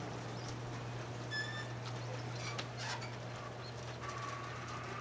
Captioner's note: garage door squeaking